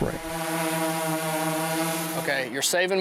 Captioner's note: drone humming